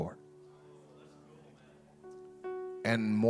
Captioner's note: audience chattering